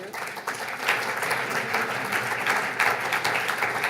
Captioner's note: audience applauds